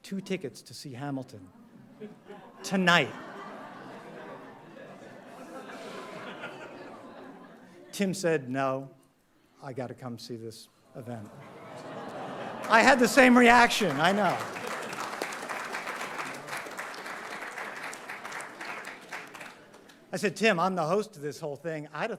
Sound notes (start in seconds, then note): 3.1 audience laughing; 15.0 audience applauding